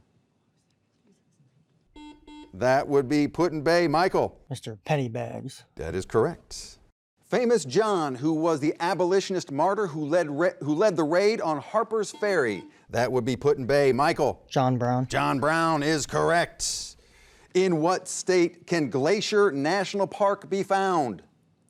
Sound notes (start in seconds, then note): 2.0 beeping; 12.1 beeping